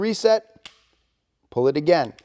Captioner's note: gun clicks